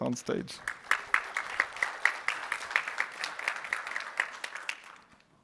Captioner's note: applause